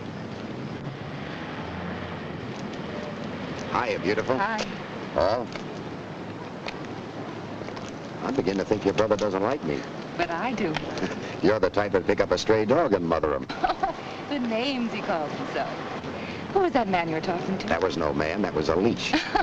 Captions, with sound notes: Hiya, beautiful. - Hi. - Paul. I'm beginning to think your brother doesn't like me. - But I do. - (laughs) You're the type that'd pick up a stray dog and mother 'em. - (laughs) The names he calls himself. Who was that man you were talking to? - That was no man, that was a leech.